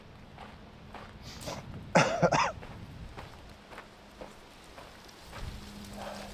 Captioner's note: cough